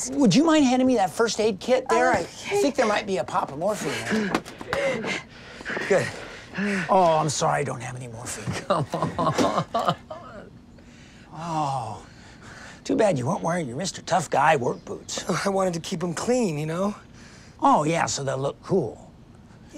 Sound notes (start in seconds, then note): 4.6 panting; 9.3 crying